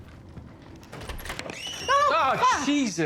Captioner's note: screaming